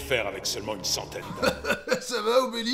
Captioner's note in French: Rire